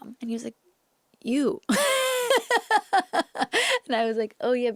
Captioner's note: laughs